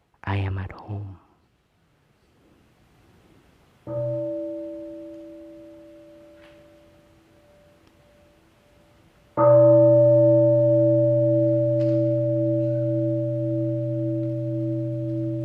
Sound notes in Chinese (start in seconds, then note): 3.9 鐘聲